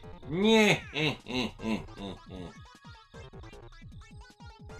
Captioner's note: cackling